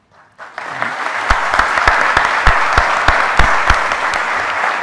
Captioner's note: audience applauding